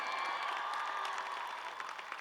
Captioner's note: cheers and applause